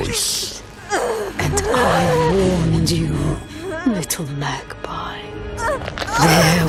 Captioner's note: Neyrelle grunting